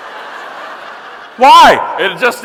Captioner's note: audience laughing